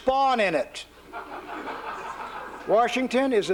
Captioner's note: laughter